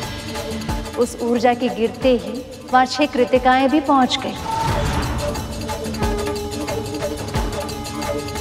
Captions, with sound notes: As soon as the energy ball touched the grass The Krittikas reached too. [conch blows]